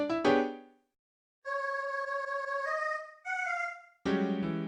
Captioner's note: sarcastic